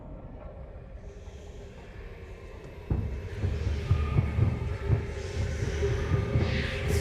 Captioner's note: tribal music; voices whispering